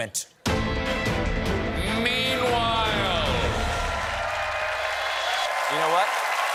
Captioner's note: cheers and applause